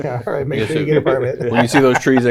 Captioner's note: laughs